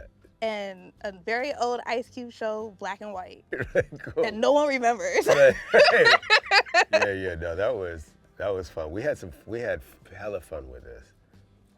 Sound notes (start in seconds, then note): 5.2 laughs